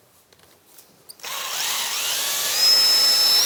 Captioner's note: whirring of the drill